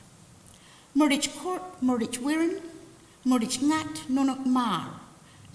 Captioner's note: language spoken